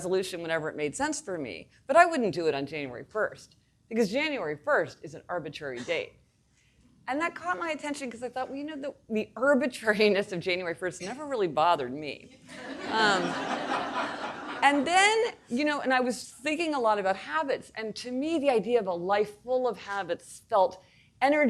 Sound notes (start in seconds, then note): 12.5 audience laughing